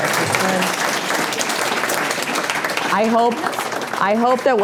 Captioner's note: applause